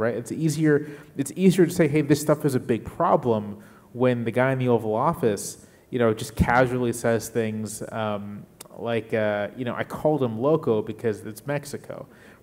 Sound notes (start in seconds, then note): 10.4 speaking in a foreign language